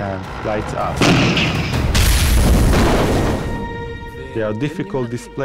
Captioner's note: explosions booming